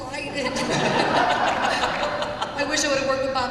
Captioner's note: laughter